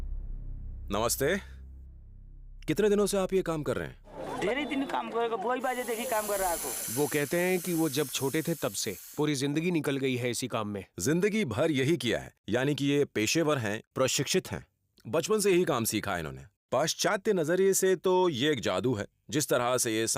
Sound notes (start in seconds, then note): 4.0 speaking in foreign language